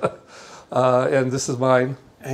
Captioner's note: laughing